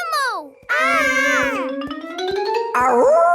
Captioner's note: kids yelling